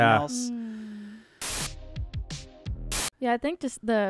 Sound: static

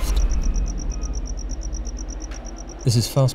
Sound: crickets

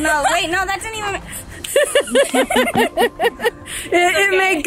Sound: laugh

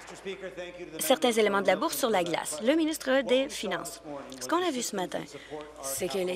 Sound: applause

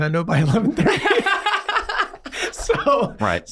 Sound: all laughing

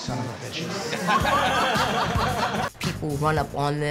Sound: laughter

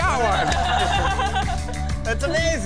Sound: couple laughing

